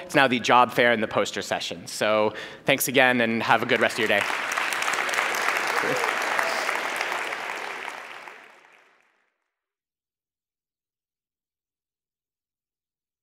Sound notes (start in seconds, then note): 3.5 applause